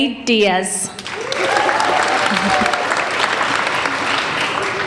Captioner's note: applauding